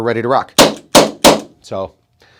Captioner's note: gun fire